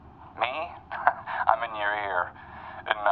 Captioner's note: laughs